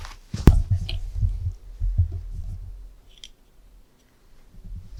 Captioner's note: footstep thudding